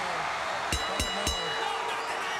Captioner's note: bell ringing